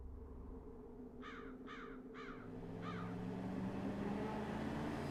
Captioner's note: silence and a bird cries out